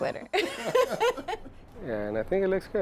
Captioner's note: laughter